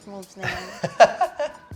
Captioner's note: laughs